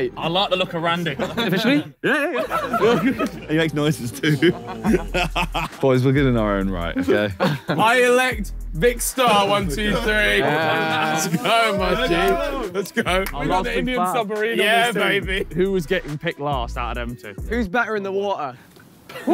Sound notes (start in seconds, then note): 1.0 Sidemen laughing; 5.1 Josh laughing